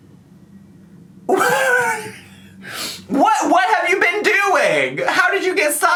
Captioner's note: snickers